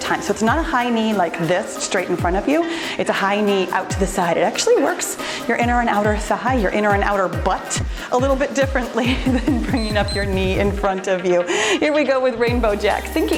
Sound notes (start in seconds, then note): 9.6 timer beeps